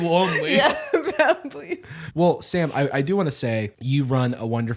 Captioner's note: laughing